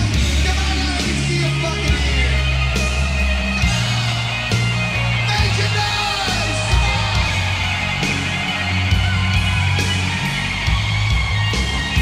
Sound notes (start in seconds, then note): 2.6 audience cheering; 2.6 slow rock music; 7.3 slow rock music